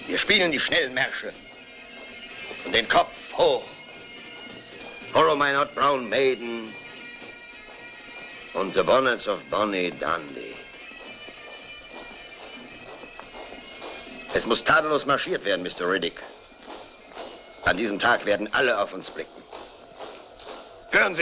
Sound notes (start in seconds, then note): 11.7 boots marching; 17.7 bagpipes fade